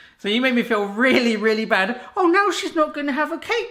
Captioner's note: none